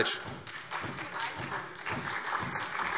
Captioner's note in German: Beifall SPD